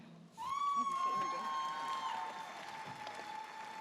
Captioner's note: audience cheers